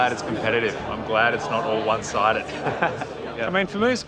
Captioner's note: laughs